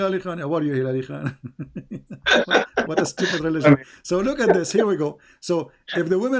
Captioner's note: Ketawa